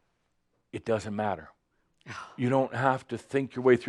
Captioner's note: sighs exasperated